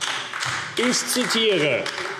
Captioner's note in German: Beifall AfD